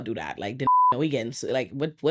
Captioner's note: beep